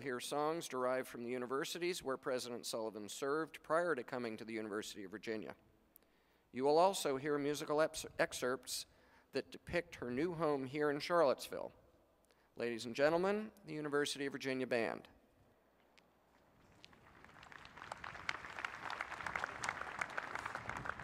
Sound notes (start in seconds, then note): 16.6 applause